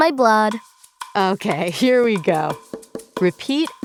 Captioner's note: laughing